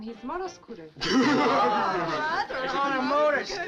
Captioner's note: all chuckling